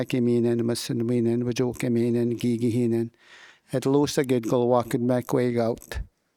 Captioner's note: speaking in Wolastoquey